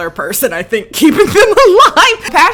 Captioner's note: laughs